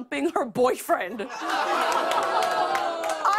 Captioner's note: audience ohs